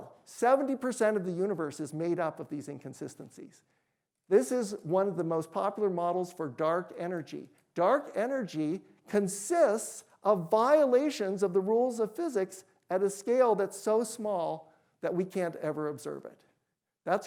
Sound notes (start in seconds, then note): none